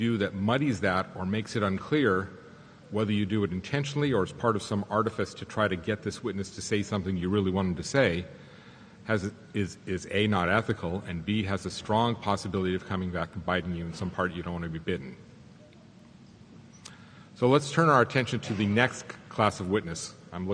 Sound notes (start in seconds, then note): none